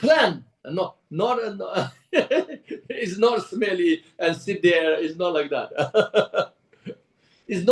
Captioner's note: laughs